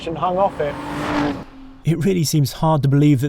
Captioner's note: engine revs